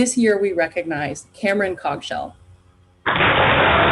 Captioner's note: applause